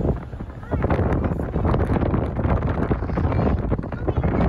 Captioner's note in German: Wind weht